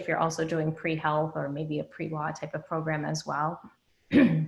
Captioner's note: clears throat